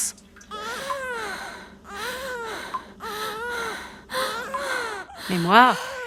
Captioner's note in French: Pleurs au loin; Respiration de souffrance